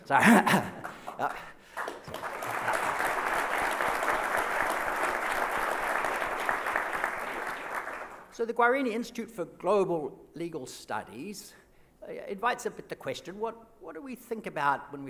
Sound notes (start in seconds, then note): 0.2 laughs; 1.6 applause